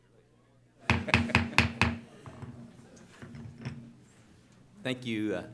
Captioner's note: gavel banging